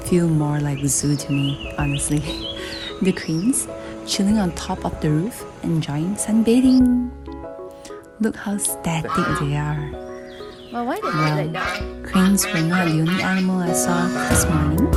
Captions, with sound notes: feel more like a zoo to me honestly the cranes, chilling on top of the roof, enjoying sunbathing look how static they are *quacks* Well, cranes were not the only animal I saw this morning